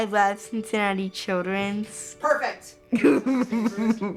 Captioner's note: laughs